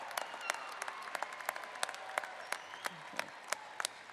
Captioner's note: applause